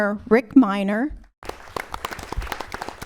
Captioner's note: applause